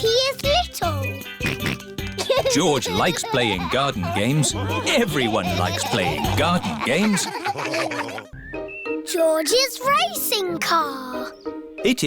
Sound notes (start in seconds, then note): 1.4 snorts; 7.5 all laughing